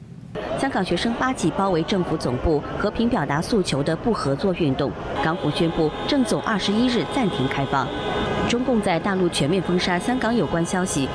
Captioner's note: reporter speaking in foreign language